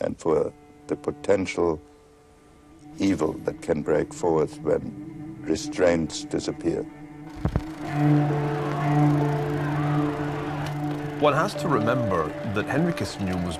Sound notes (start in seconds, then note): 7.2 people shouting